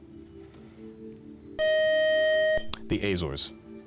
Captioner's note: time-out buzzer